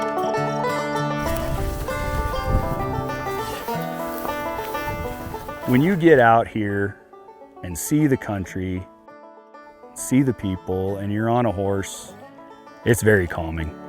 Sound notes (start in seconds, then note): 1.1 grass rustling